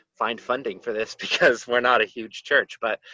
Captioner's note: laughter